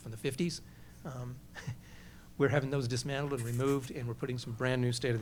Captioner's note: laughs